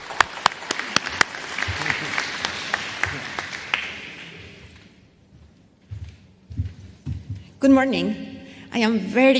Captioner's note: applause